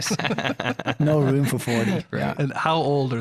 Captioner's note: laughing